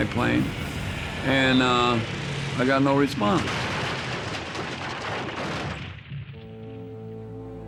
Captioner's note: airplane smashing in rubble; somber instrumental music